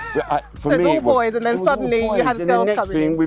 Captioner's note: laughter